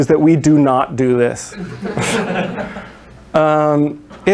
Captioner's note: laughter